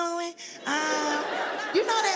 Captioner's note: audience laughs